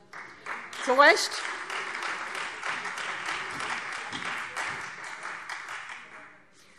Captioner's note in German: Beifall Freie Demokraten und vereinzelt SPD